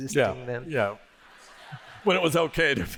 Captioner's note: laughter